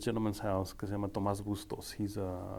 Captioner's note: speaking foreign language